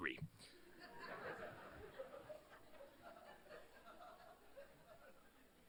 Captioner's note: laughter